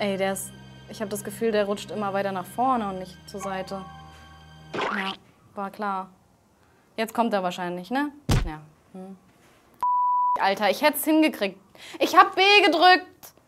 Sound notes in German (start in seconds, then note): 4.8 Pflatsch